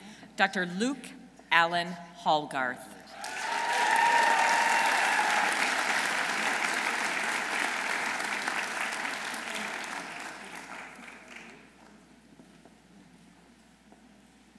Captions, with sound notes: Dr. Luke Alan Hallgarth. -(audience cheering) -(audience applauding)